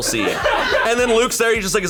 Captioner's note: colleagues laughing